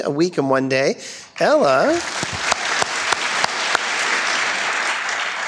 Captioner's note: crowd applauding